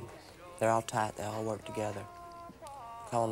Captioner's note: none